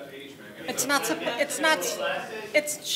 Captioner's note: audience talking